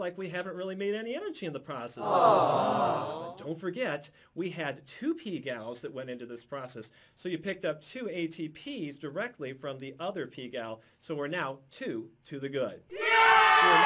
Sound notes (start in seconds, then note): 2.0 audience: "Awwww!"